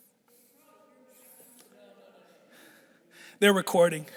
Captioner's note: people chattering distantly